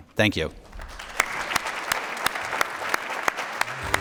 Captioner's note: applause